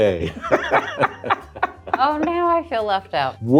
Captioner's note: both laugh